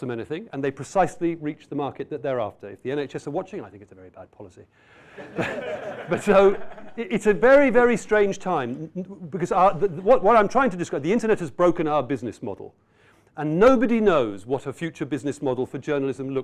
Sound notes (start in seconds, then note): 7.7 laughter